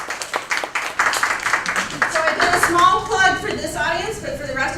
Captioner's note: applause